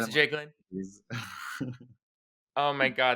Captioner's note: laughing